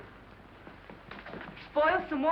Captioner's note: none